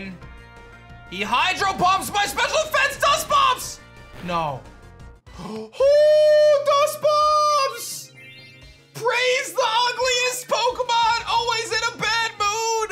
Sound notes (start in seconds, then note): 5.3 gasps